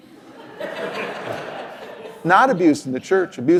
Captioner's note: laughter